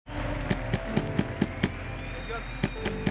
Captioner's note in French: on frappe à la porte